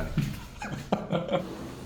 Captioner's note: haha